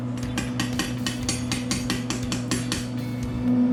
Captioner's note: tapping